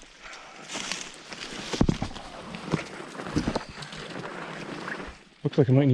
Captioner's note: bushes rustling